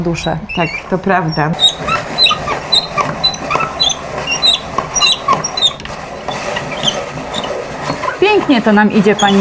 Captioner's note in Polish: skrzypienie